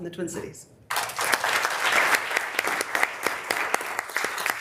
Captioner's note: members applauding